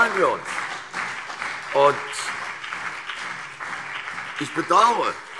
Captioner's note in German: Beifall CDU und BÜNDNIS 90/DIE GRÜNEN